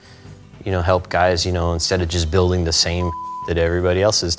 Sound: beep

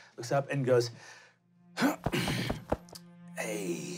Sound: clearing throat

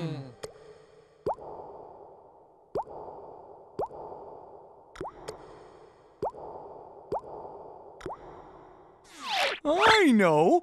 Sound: water dripping

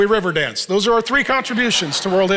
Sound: congregation laughs

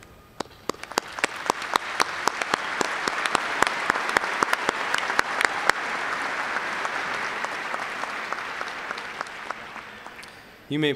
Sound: applause

